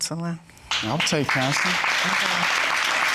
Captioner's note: audience clapping